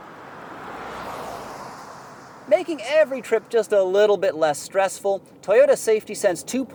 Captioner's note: air whooshing